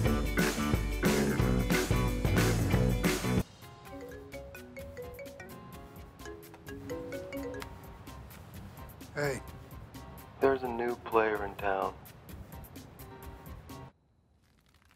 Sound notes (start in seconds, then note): 3.9 phone ringing